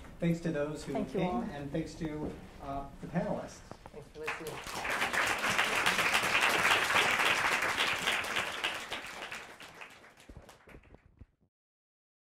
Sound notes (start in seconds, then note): 4.2 applause